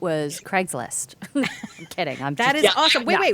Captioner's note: laughing